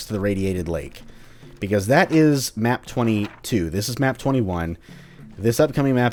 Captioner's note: journal opens/closes